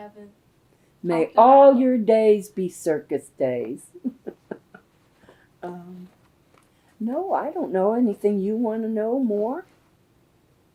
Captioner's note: laughs